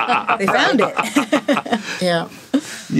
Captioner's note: laughing